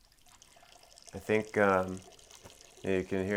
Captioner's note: Frank urinating